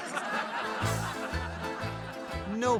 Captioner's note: audience laughing